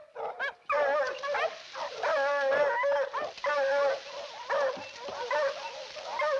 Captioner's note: dogs barking continues; leaves rustling